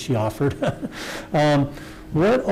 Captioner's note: laughs